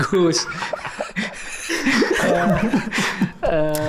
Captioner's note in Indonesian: Tertawa